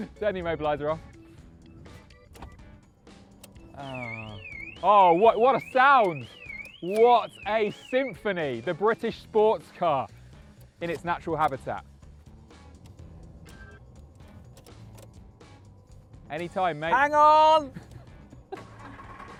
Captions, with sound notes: Turn the immobiliser off. (CAR ALARM BLARES) Oh, what a sound! What a symphony! The British sports car in its natural habitat. Any time, mate. - Hang on!